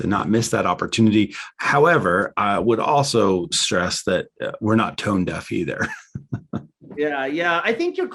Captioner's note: chuckles